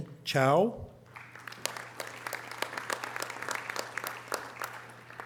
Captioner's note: audience applause